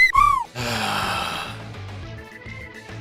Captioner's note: sigh